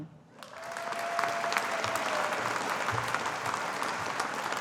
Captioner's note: audience applauding